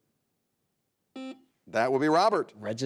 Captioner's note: buzzer buzzes